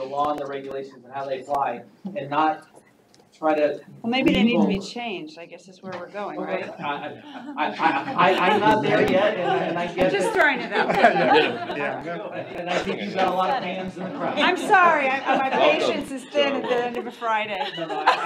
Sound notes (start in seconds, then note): 10.5 all chattering, laughing; 17.2 laughs